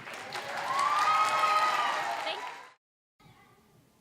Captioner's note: applause, cheering